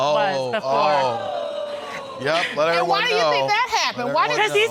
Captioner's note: audience exclaiming